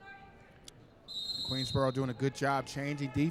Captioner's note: referee whistling